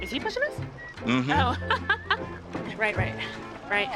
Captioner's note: laughs